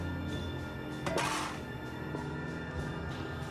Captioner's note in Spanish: estrépito al caer la pala